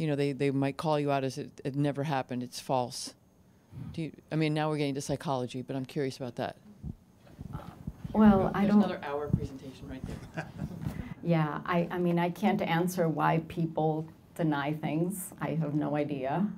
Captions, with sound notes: they might call you out as it never happened, it's false. Do you, I mean, now we're getting to psychology, but I'm curious about that. - Well, I don't-- - [Voiceover] There's another hour presentation, right there. - Yeah, I mean I can't answer why people deny things. I have no idea.